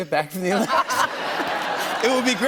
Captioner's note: laughter